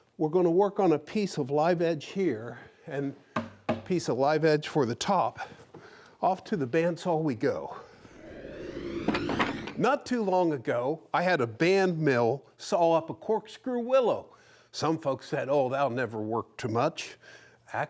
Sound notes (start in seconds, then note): 7.8 wood whooshing